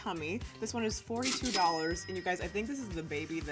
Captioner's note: cash register dings